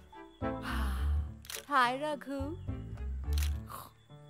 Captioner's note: Camera shutter clicks